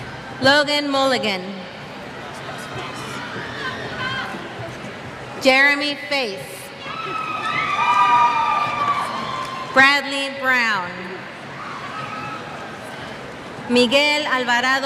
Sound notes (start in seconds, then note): 2.6 cheers